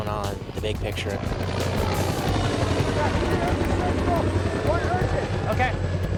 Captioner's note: helicopter blades whirring